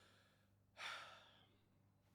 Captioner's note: deep breath